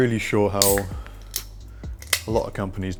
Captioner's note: can cracking